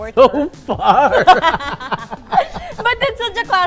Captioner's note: laughs